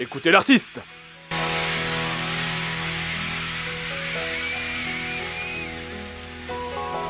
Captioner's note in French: foule en délire; Musique sirupeuse aux claviers